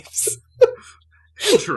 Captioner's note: laughter